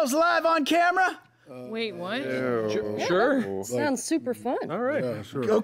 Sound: overlapping timid agreement

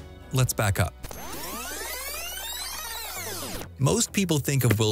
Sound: videotape rewinding

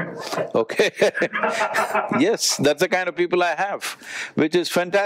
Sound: Vusi laughs

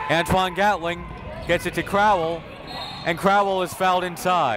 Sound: whistle

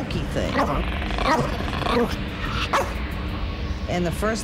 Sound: dog barking

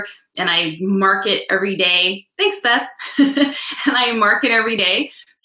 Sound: laughs

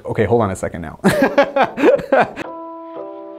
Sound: laughing

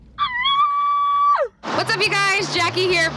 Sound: shrieking

